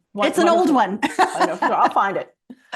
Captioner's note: laughs